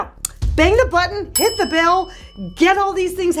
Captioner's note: bell dings